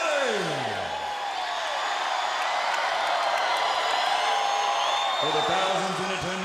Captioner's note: crowd cheering